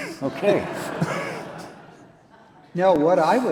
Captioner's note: audience and chuckle